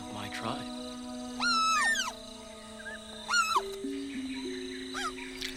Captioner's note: squealing